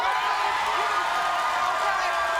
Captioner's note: audience cheering